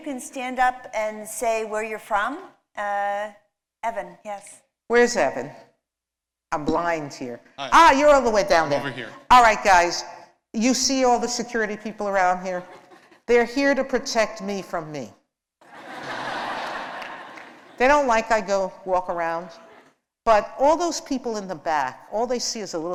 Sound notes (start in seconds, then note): 15.6 laughter